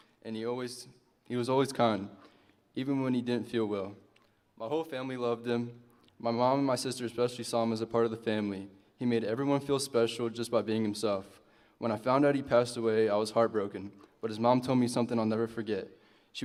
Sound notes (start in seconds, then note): none